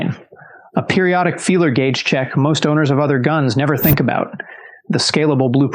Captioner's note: whoosh